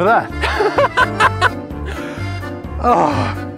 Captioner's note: laughs